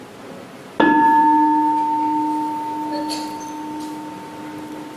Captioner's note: bell